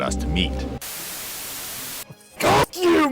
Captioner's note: TV static